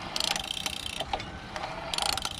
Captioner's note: motor whirring; spokes ticking; motor whirring